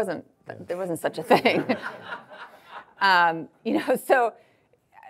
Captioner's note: audience laughing